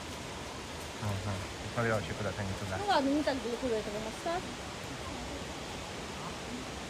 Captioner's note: sound of water